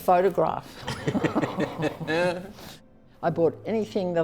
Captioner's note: laughter